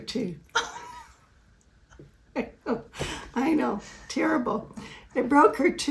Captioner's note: laughs